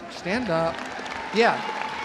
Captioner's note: audience applauding; audience cheering